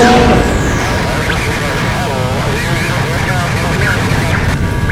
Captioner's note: radios scrambling